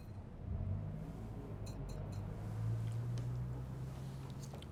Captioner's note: traffic humming